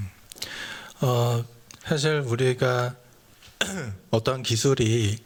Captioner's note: speaking japanese